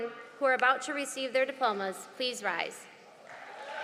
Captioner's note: applause